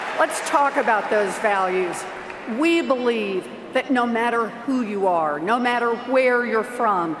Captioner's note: cheers and Applause